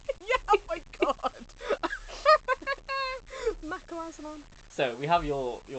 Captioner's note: laughing